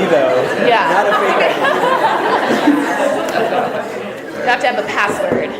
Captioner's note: audience laughter